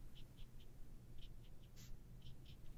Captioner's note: light tapping dry strokes